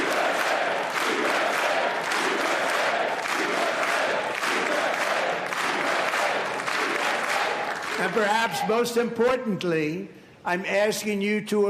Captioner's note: applause